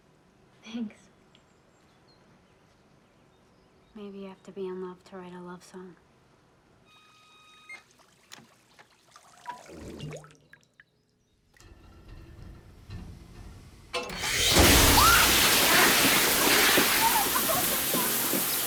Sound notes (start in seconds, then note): 11.6 pipes rumbling; 14.0 water blasting; 17.8 laughing